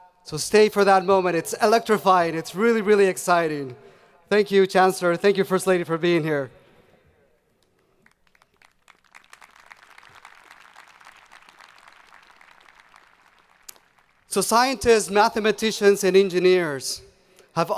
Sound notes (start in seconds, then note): 8.0 audience applauding